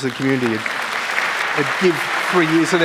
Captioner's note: applause